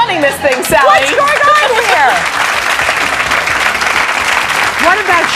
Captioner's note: audience clapping